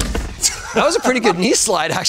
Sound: laughing

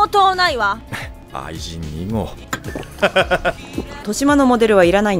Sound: risa

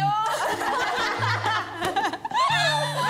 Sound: laughing

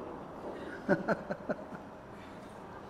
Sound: he laughs

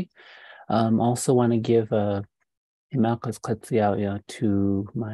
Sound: speaking indigenous language

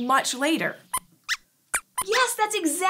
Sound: squeaks squeaks

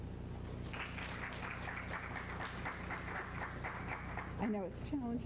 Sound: applause

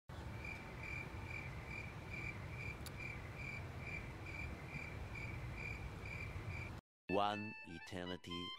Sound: crickets

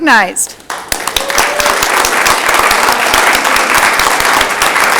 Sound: audience clapping

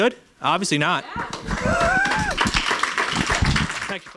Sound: applause

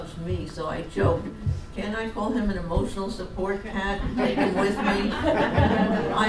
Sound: audience laughs

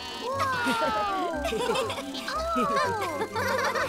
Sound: all chuckling

